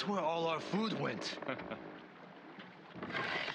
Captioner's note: laughs